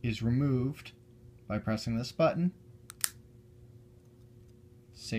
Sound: click sound

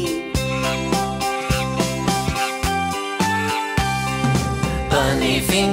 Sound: monkey screeching

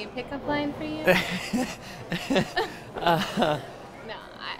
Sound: Laz laughs

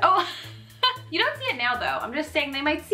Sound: laughing

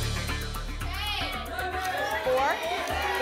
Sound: audience shouting numbers

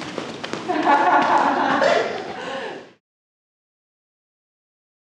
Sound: crew laughing

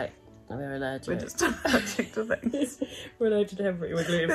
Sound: giggling

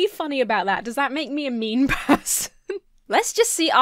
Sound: giggles

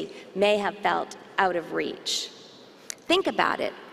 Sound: none

